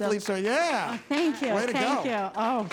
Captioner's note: group applauds